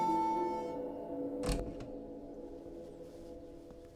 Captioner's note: door Opens